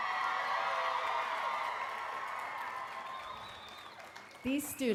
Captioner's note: applause